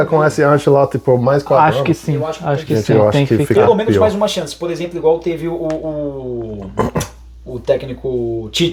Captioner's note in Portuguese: limpando a garganta